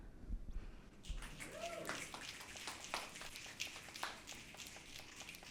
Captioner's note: audience snapping